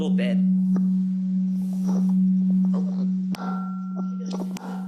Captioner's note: microphone buzzing